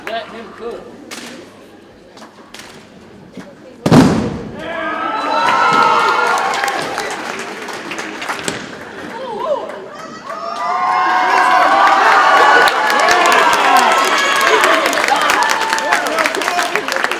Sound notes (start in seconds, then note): 4.4 audience cheers and applauds; 4.4 boots thump; 12.0 audience cheers and applauds